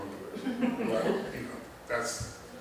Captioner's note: laughter